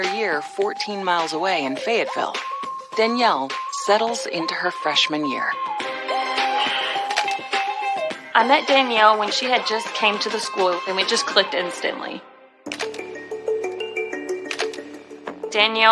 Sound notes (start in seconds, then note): 6.4 exhaleses